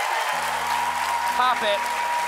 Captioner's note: cheers and applause